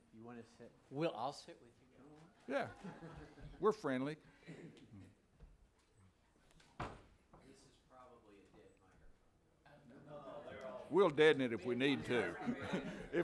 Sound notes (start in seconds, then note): 2.6 some laughing; 9.7 people chatting